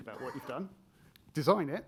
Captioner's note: attendee coughing